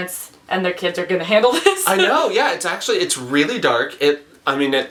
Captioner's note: laughs